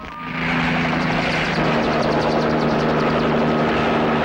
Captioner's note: helicopter roaring